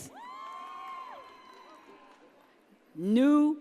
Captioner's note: audience cheers